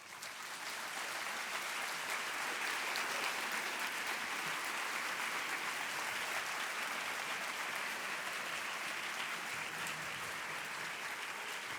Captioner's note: applause